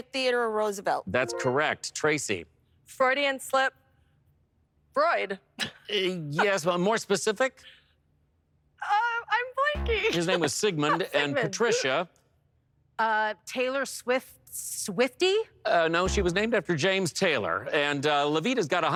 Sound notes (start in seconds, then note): 9.7 bass note; 9.8 laughs